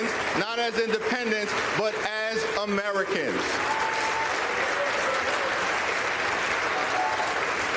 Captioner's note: applause